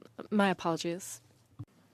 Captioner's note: speaking in French